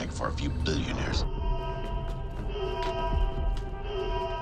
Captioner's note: alarm blaring